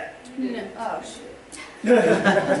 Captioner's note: laughter